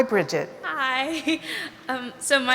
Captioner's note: giggles